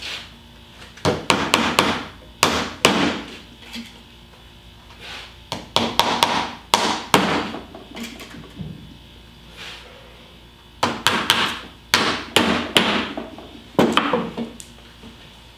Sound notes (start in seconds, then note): 1.0 hammering